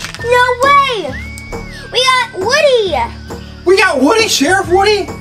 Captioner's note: gasps